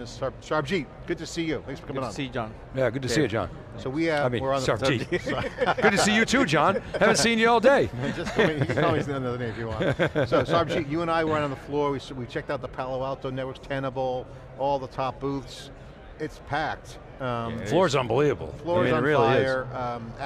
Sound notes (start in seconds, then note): 4.9 laughing; 9.4 laughing